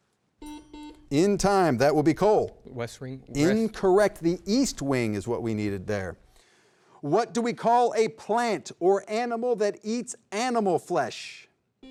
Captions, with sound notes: (double beep) (bell tings) In time, that will be Cole. - West Wing. - Incorrect, the east wing is what we needed there. What do we call a plant or animal that eats animal flesh?